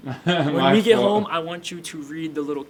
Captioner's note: laughs